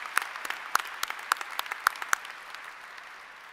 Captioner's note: applause